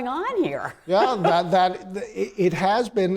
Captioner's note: laughs